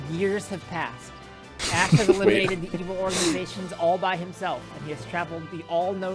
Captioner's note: laughs